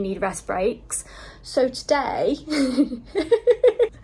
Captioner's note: laughs